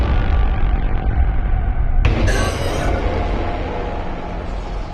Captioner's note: gasping